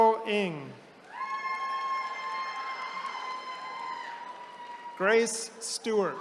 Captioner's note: attendees cheering